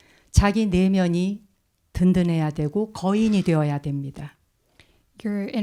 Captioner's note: speaking in Korean